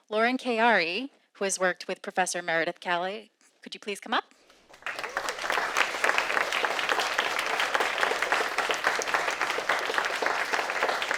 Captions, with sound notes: Lauren Keari who has worked with professor Meredith Calley. Could you please come up? (audience applauding)